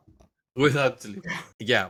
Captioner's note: laugh